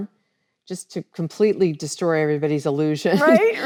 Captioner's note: laughs